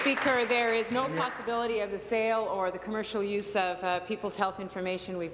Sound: applause

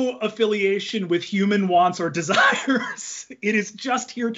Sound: laughs

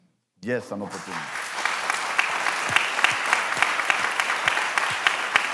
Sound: applause

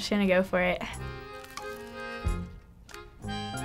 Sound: crunching

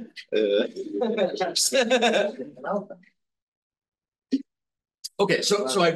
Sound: laughing; instructor laughs

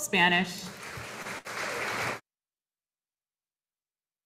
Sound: audience applauding

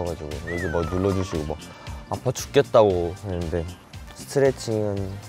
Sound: chatting

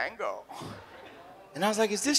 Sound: audience laughs

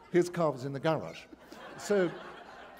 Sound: laughter

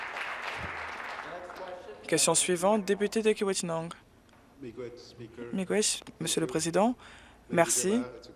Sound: applause

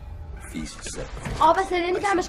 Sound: TV noises

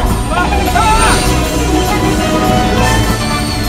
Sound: Lightning yells

